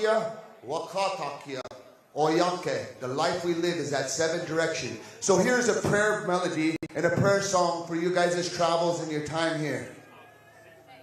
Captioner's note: speaking native language